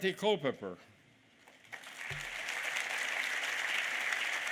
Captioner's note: applause